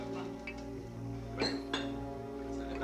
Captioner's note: bottle cracks open